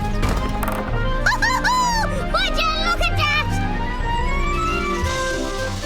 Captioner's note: cheers